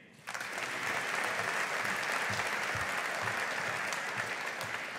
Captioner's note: audience applauding